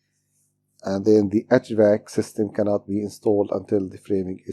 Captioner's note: hvac